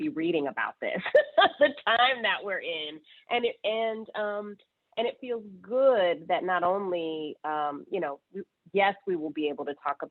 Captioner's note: laughter